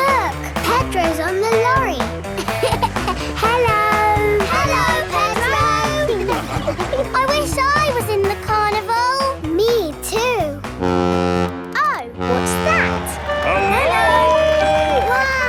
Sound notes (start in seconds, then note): 2.2 laughing; 12.2 horn bellowing